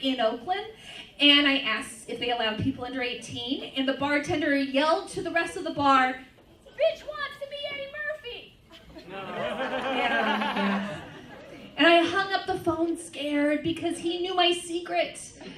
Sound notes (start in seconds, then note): 8.7 laughter; 15.3 laughter